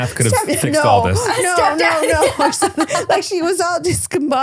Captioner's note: laughing